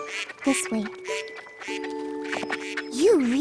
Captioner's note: quacking